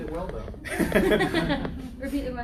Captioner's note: laughter